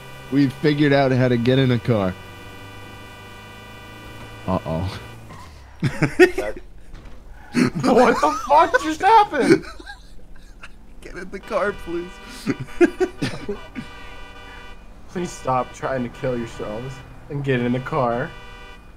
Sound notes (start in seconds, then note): 7.3 laughing